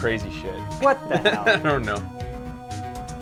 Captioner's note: laughs